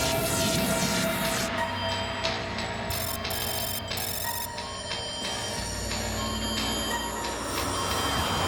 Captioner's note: alarm